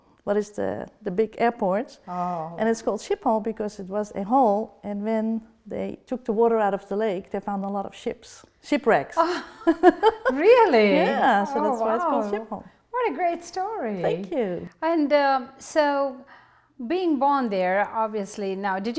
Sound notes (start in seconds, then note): 9.8 laughing